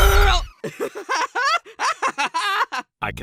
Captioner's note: paintbrush laughs